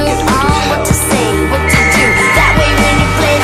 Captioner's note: Bric blows whistle for help